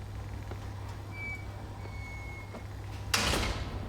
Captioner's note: hinges squeaking; gate closes